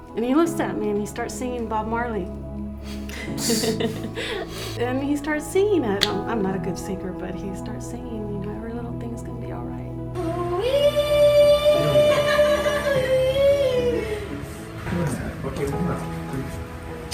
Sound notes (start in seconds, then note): 2.9 soft laughter; 10.6 loudly vocalizing